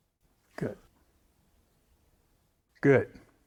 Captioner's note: none